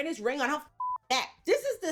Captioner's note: beep